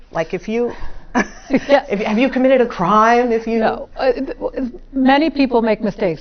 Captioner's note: laugh